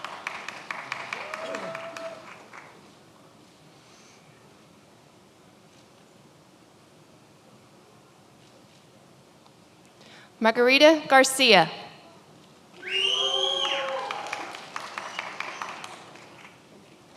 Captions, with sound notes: (many applauding) Margarita Garcia. (many applauding)